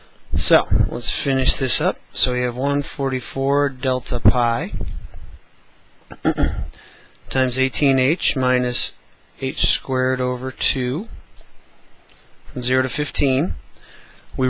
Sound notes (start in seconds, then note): 6.0 cough